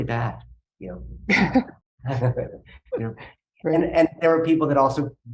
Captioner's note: chuckling